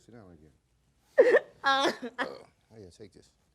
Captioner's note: crying continues